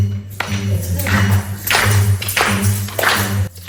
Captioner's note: clapping